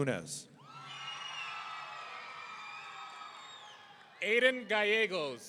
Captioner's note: audience cheering